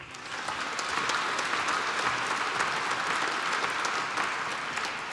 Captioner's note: applause